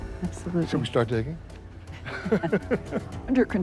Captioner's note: laughs